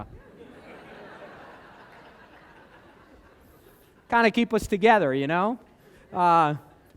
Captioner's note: laughter